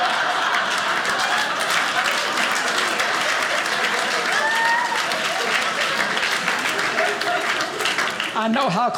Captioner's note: audience laughing; audience applauding